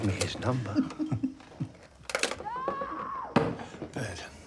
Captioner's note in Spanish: ambos riendo; Anna gritando